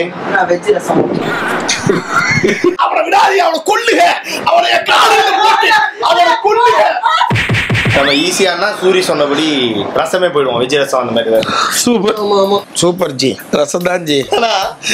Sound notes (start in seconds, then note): 1.2 laughs; 4.6 screams